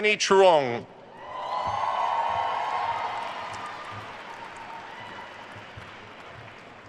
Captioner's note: attendees cheering and applauding